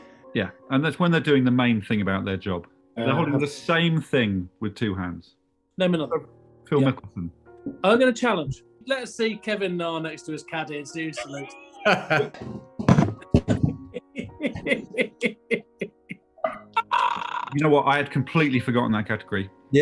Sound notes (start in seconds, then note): 11.8 laughing; 12.8 thud; 14.1 giggling